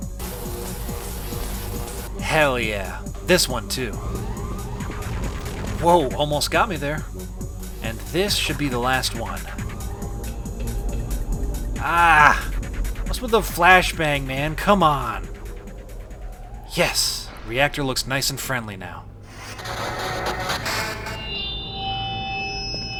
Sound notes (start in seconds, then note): 0.2 omnicutter buzzing; 4.6 electricty zaps; 7.3 omnicutter buzzing; 15.6 music fades, reactor whirs up; 19.4 audio speaker rings with feedback